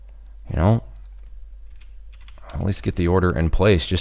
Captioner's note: keyboard clicking